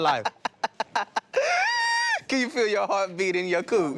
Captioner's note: laughs